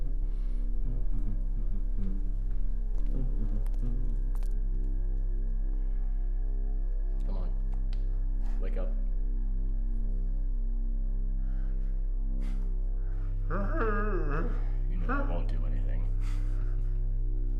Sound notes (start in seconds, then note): 3.1 footsteps; 9.8 deep breathing; 9.8 smacking